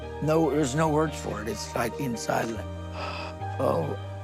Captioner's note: gasps